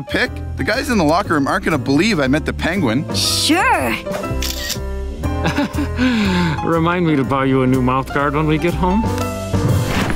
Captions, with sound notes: The guys in the locker room aren't going to believe I met the Penguin! Sure! [chuckles] Remind me to buy you a new mouthguard when we get home.